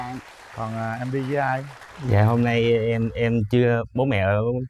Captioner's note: applause